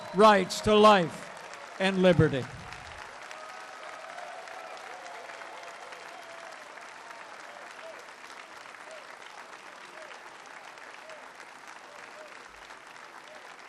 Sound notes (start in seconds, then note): 2.5 applause